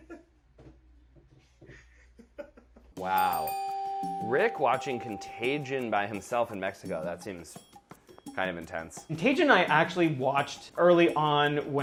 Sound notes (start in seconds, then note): 0.1 laughing; 3.0 dinging